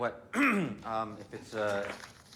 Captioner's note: Adrian clears his throat